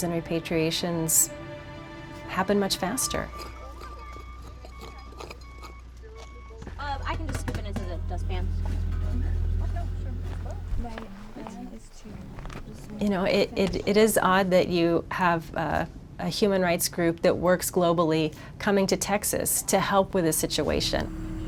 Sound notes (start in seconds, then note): 5.9 people chattering